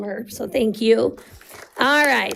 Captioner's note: audience applauding